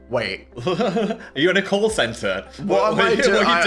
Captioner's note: laughs